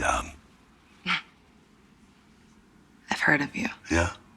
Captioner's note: chuckles